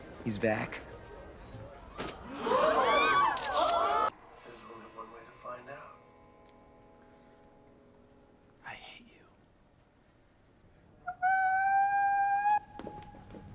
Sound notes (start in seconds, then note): 8.6 whispered; 11.0 DEAN screaming/gasping